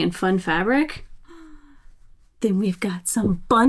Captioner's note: gasps softly